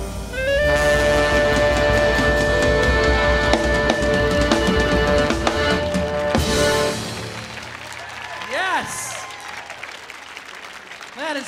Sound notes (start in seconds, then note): 6.2 audience applauding; 8.1 audience cheering